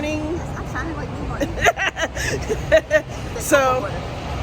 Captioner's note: woman laughing